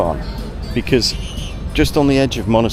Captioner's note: people chattering